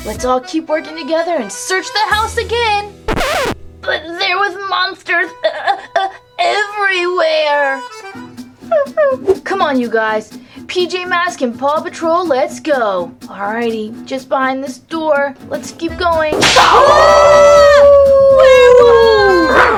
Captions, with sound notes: Let's all keep working together and search the house again! - But there was monsters everywhere! - C'mon you guys. PJ Mask and Paw Patrol, let's go. Alrighty. Just behind this door, let's keep going. (monster howls) Aah! Werewolf!